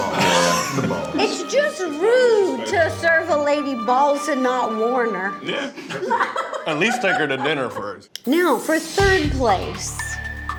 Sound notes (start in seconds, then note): 5.5 laughs